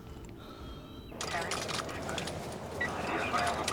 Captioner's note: police radio chatter